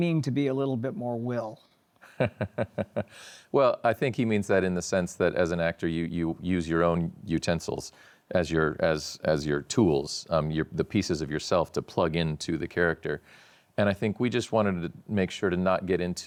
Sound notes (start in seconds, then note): 2.0 laughs